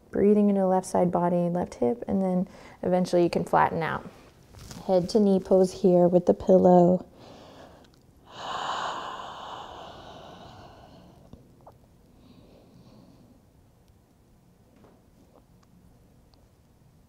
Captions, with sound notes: Breathing into the left side body and left hip and then eventually you can flatten out. Head to knee pulls here with the pillow. (heavy breathing)